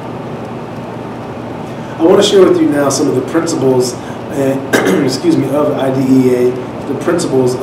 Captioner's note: clears throat